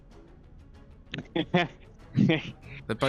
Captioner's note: buzz laughs